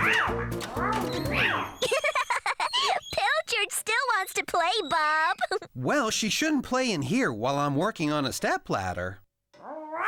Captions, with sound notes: ( Giggling ) PILCHARD STILL WANTS TO PLAY, BOB. WELL, SHE SHOULDN'T PLAY IN HERE WHILE I'M WORKING ON A STEPLADDER.